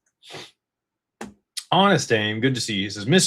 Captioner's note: snorts